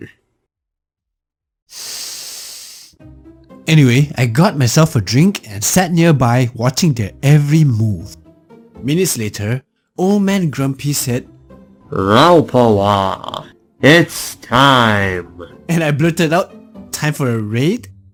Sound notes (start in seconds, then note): 1.7 breathes